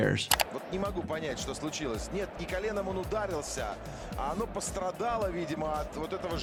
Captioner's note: commentator talks in foreign language